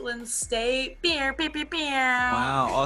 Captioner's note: air horn sounds